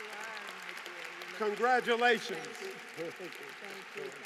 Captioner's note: applause